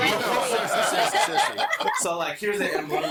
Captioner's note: all laughing